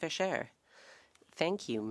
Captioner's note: speaking French